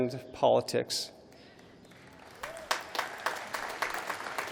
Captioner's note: applause